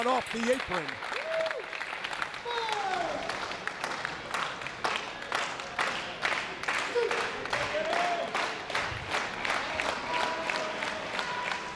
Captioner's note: applause